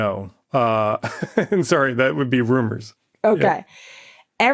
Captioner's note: laughs